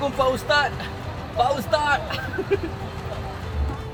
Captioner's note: laugh